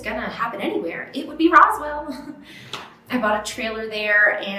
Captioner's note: chuckles